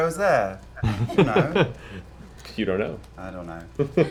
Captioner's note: laughs